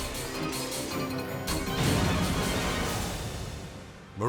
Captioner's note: race car crashing